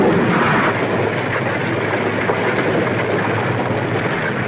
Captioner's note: fire crackling